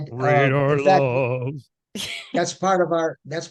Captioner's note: laughing